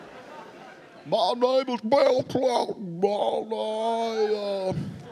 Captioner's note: speaking gibberish